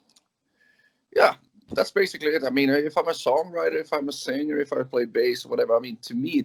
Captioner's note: laughs